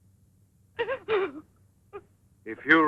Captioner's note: sobbing